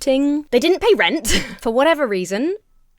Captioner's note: chuckles